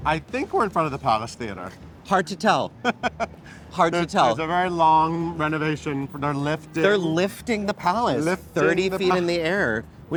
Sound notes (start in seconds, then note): 2.7 laughs